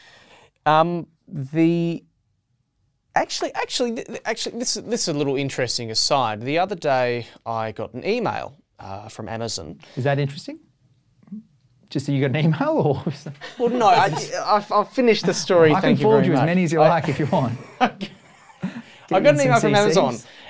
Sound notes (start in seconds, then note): 13.3 laughs